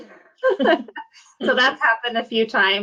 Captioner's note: both laugh